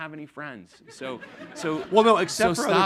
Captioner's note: audience laughing